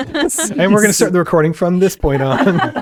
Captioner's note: laughing